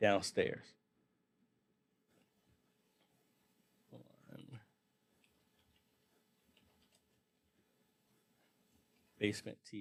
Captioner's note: silence